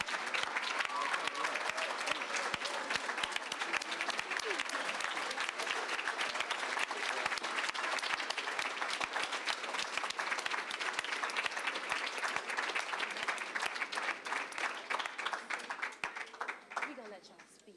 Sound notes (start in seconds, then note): 0.0 applause; 1.2 applause, cheering